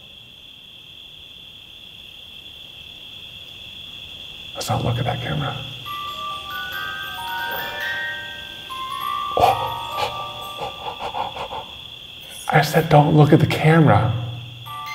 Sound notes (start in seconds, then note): 0.1 crickets chirping; 5.8 music box chiming; 9.4 gasps